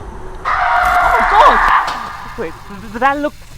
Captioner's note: screaming!